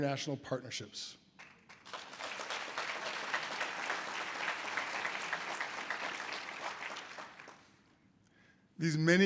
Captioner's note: audience applause